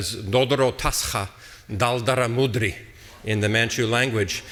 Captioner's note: speaking foreign language